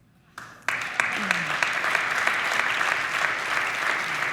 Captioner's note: audience applauding